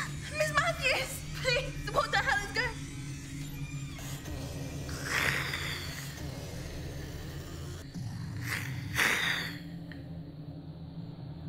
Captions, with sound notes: Miss Mathews, please, what the hell is going... (ominous music) (Miss Mathews snarling)